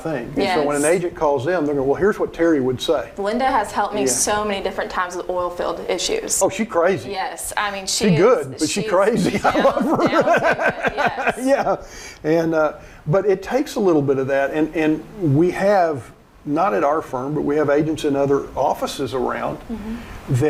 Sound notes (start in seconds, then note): 8.6 laughing; 9.6 speaks faintly